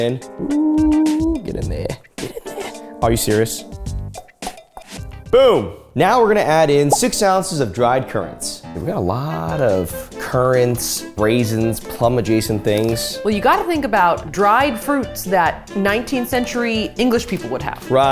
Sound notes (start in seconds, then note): 4.1 hand taps